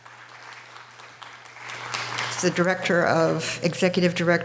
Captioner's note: audience applause